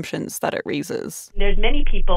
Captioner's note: soundbite of archived recording